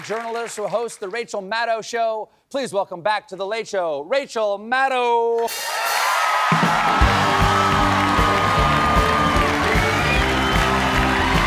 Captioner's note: cheers and applause